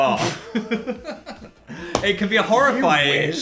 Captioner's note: both laughing